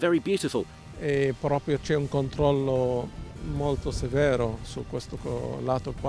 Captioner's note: speaks in foreign language